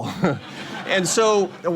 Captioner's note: laughter